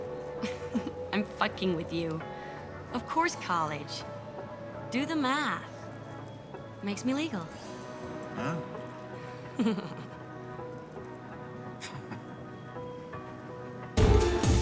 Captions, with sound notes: [laughs] I'm fucking with you. Of course, college. Do the math. Makes me legal. Huh. [giggles]